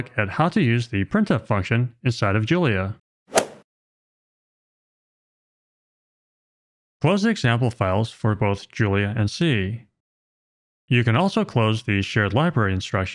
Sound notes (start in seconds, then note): 3.3 golf ball hit sound effect